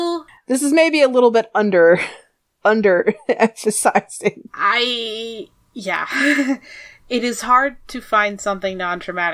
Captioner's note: aughs